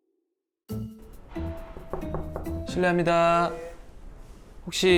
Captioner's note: knock, knock